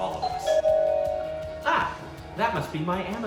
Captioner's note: doorbell rings